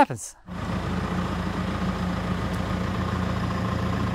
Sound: equipment rumbles

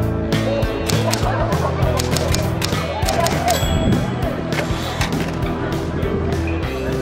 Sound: sound of typing

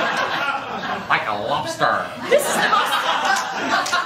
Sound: laughter; laughter

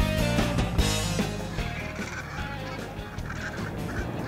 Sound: birds cawing

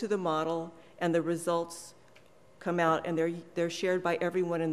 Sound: none

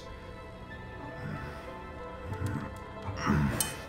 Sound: groans softly

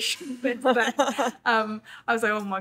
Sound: laughs

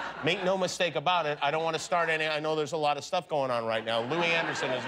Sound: laughter

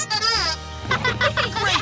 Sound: giggling

